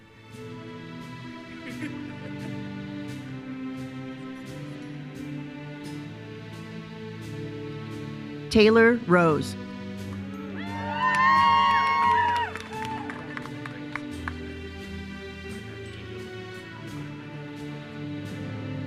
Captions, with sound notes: (uplifting music) Taylor Rose. (attendees cheering) (uplifting music continues)